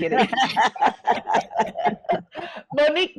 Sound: all laughing

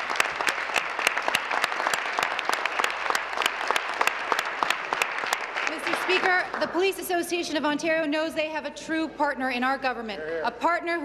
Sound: applause

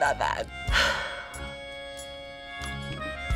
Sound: sighs deeply

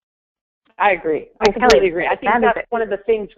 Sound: voiceover

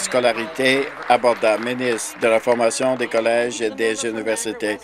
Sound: some Applause

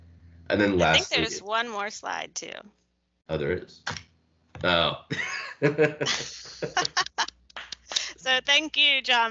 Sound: both laugh

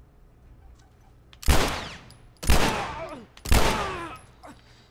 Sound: gunshots, man groaning

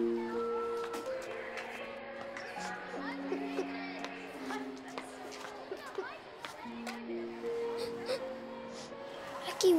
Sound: crying

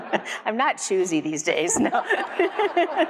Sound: everyone laughs; everyone laughs; laughs

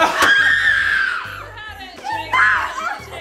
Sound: boy screams

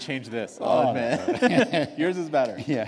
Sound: laughter

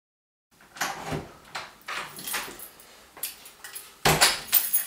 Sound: door opens and closes

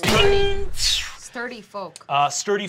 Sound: mimics whizzing arrow

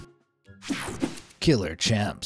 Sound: image whooshing

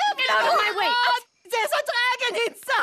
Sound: commotion

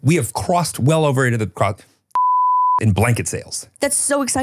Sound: beep

